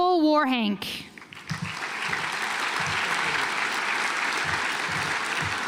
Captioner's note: audience applauds